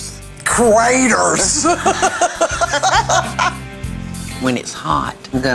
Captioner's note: girls laughing